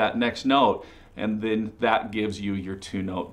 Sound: none

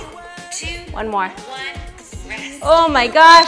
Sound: beeps

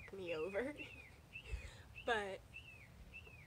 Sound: birds chirping

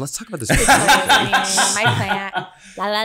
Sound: laughs

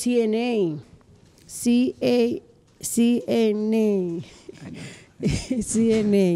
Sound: laughs

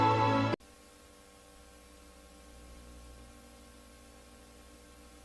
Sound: VHS static

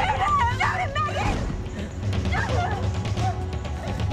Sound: gunshot

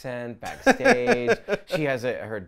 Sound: laughs

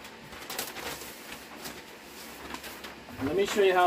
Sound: paper crinkling

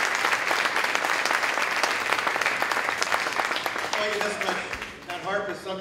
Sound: applause

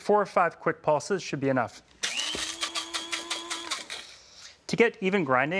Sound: spice grinder whirring

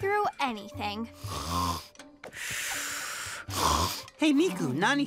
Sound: snoring

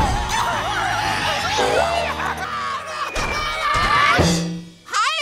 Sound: screaming

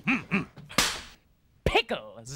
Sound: smacks board

